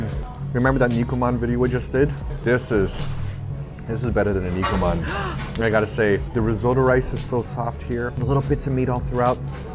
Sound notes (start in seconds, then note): 4.9 gasps